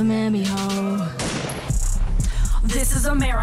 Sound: gun shooting

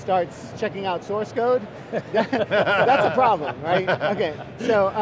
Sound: laughs

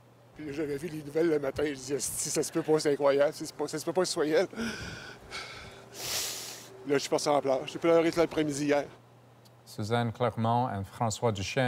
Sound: speaking French

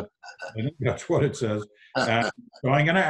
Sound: laughs

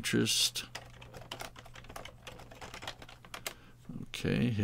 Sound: keyboard clicking

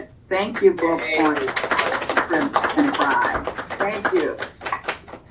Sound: panel applauds

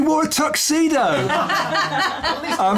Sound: laughter

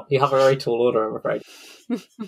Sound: laughing

